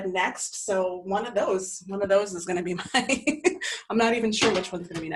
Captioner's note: laughs